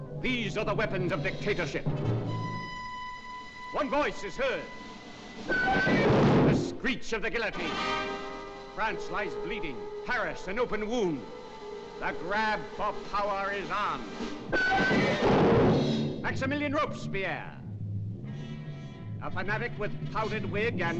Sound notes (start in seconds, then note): 4.7 metallic screech & slam; 14.5 metallic screech & slam